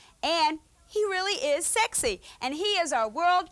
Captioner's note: none